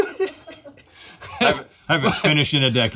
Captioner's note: laughs